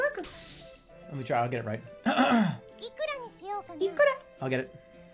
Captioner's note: Otto voice; clears throat